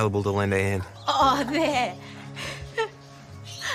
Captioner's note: laughs